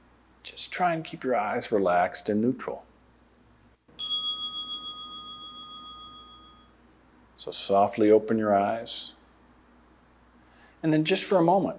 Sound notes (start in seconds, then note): 3.9 chime sounds